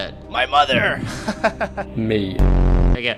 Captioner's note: ahh laugh